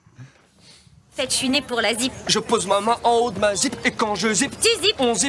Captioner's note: speaking in French